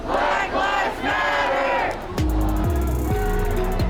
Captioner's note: crowd